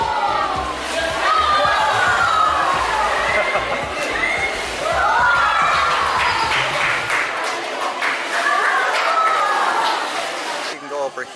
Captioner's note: kids cheering